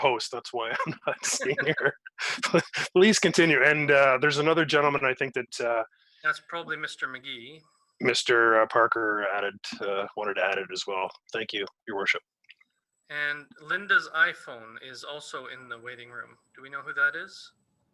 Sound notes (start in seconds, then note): 2.8 laughing